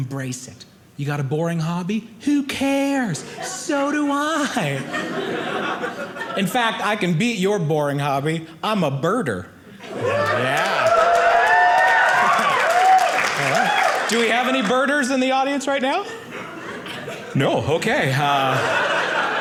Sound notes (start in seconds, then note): 9.9 audience cheering